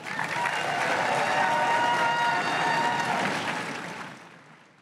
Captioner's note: crowd cheering and applauding